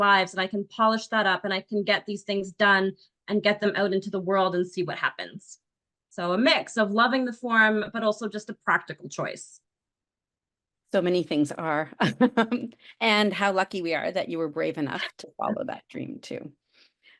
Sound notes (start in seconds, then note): 12.2 laughs